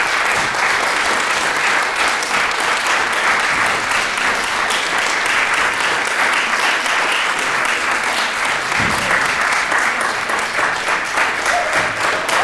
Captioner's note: applause